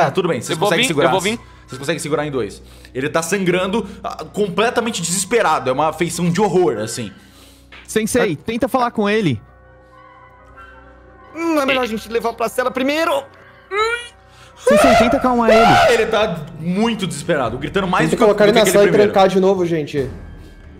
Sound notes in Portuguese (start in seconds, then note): 13.4 som de esforço; 14.6 gritos